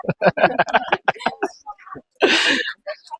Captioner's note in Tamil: சிரிப்பு